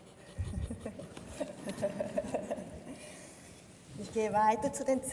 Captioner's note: laughs